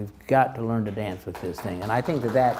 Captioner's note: crowd applauds